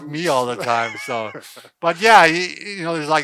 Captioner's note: laughs